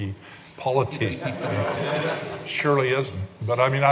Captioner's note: laughing